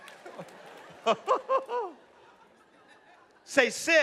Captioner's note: laughs